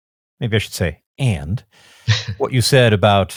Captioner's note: chuckles